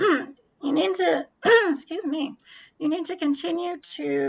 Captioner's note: coughing